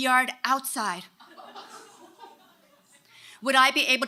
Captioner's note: audience laughing